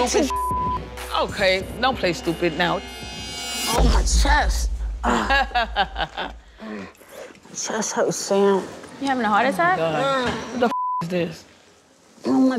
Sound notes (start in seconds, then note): 0.1 beep; 6.4 grunts; 10.7 beep